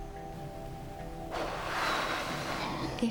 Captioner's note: exhales